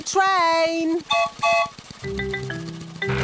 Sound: whistle blows

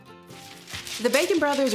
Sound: papers rustling

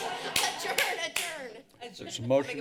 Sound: laughter; claps

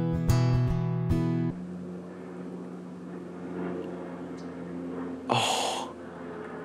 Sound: airplane flying overhead

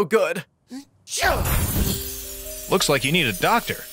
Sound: Roach sneezes; mysterious music

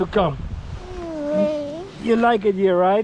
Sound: wailing

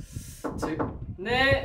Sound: knock knock

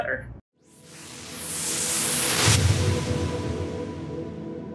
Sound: whooshing

